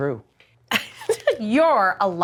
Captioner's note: laughing